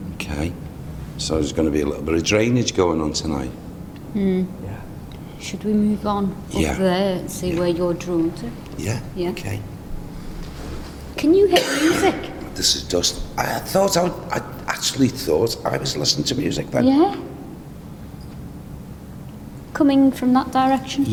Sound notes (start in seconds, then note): 11.4 coughing